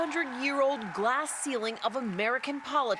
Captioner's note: cheers and applause